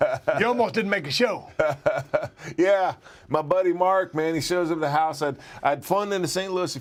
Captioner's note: laugh